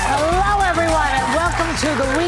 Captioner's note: audience cheering; upbeat music